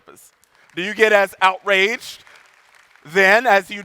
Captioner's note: audience applauding